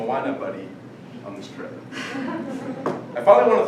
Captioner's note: laughter